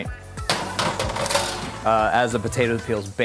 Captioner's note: pan clanging